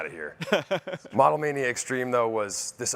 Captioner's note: chuckles